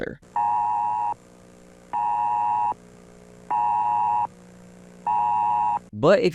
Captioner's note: beep, beep, beep, beep